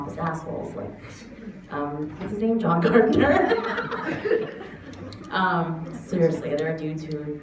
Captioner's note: laughs